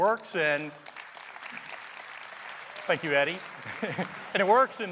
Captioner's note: applause